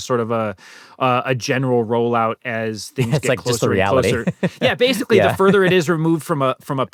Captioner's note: laughter